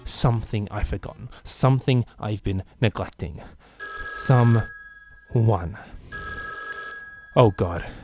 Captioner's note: phone rings